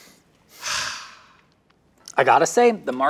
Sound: Cookie Monster sighs

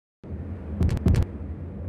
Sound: microphone Feedback

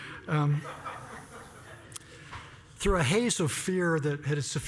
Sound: laugh

